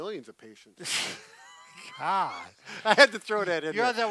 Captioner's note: laughs